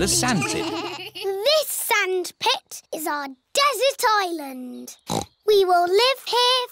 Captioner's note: snorts